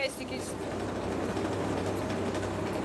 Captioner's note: chattering